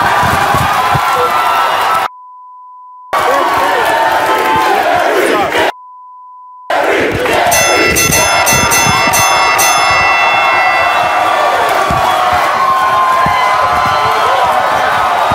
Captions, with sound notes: Jerry! Jerry! Jerry! Jerry! (boxing bell ringing) (audience cheering)